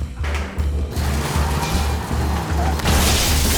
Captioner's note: low suspenseful music continues; tires screeching; electricity crackling